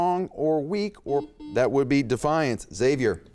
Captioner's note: beep